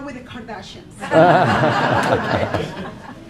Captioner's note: laughing